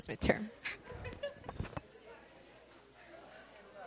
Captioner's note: laughter